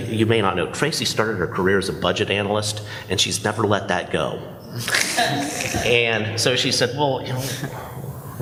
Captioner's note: laughter